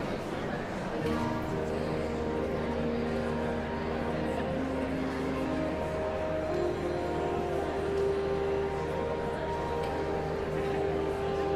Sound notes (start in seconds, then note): 5.0 audience chattering continues